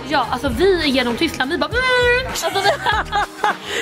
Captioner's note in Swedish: imiterar snabb bil